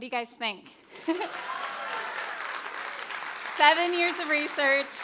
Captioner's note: crowd cheering